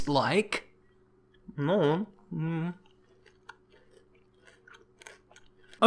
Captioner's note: eating Noises